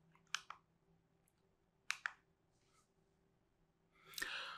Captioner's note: remote clicking